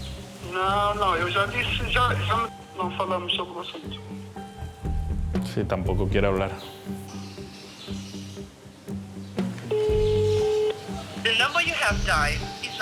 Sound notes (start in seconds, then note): 0.3 on phone; 9.7 line ringing; 11.1 on phone